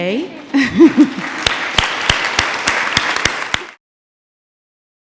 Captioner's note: laughing; audience applauding